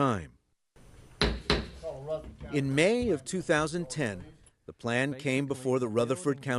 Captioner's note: gavel sound